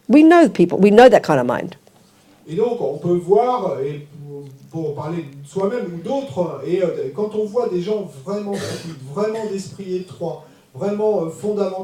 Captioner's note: French